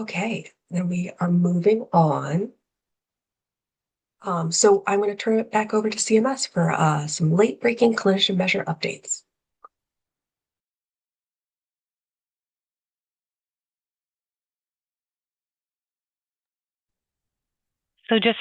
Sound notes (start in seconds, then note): 14.7 pause